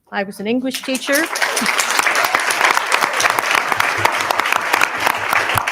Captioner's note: everyone applauding